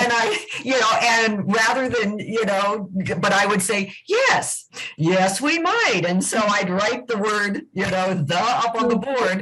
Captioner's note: laughter